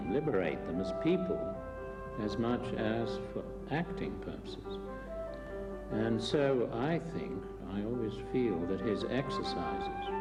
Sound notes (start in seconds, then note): none